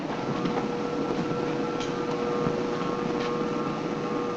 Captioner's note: lift whirring